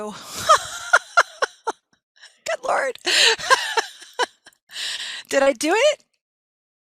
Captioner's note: laughing